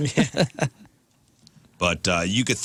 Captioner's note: laughing